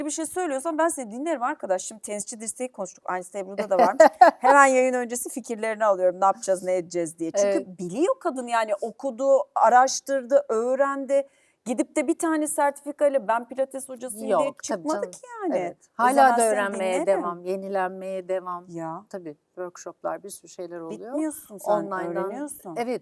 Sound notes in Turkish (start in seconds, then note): 3.6 kahkaha